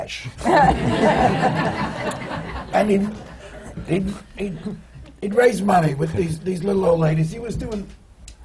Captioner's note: laughter